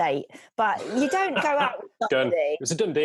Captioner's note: laughs